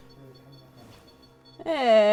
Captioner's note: REM pod beeping